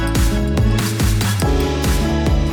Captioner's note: glass clinking